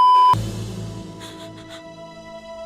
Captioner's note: starts crying